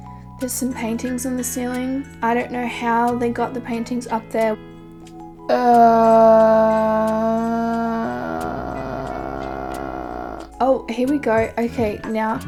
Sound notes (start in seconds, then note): 5.5 vocalizing anxiety